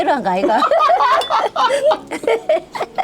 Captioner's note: both laughing